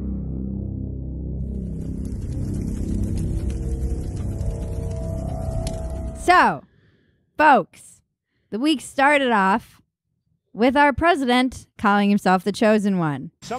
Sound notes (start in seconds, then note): 1.4 fire crackling